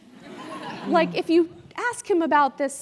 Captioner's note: laugh